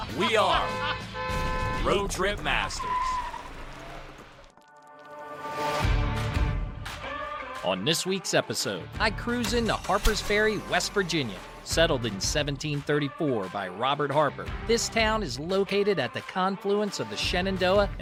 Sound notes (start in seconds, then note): 0.1 horn honks; 2.9 tire squeals; 5.1 epic music begins